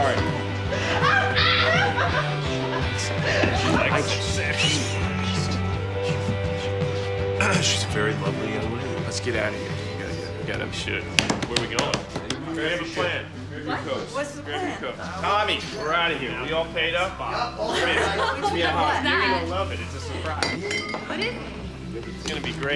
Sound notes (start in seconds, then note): 0.0 girls laughing; 7.4 clears throat; 17.4 laughs